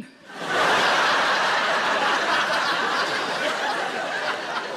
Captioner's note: audience laughing